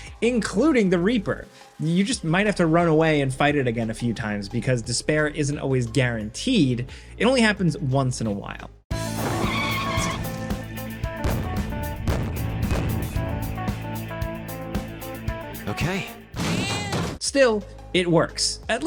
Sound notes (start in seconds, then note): 9.0 tires screeching; 9.8 dynamic music; 11.1 explosion booming; 16.3 cat meowing